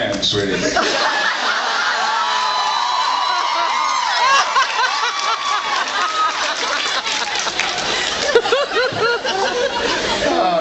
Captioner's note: laughs and screams